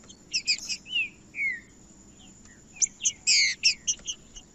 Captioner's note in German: trinca ferro cantando